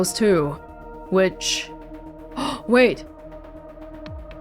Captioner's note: gasps